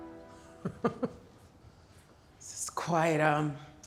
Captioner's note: chuckles